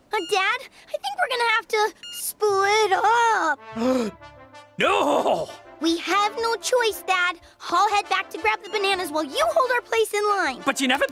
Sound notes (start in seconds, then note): 3.7 gasps